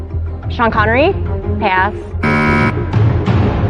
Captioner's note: buzzer sounds